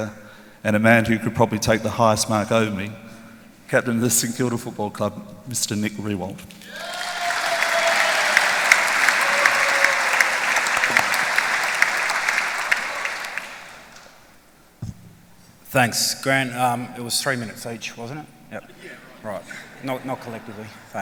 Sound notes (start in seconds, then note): 6.6 applause, cheering